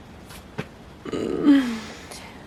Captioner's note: groans